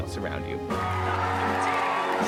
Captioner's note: applause; crowd cheers; shoes squeak